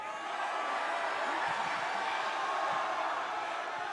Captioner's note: crowd cheers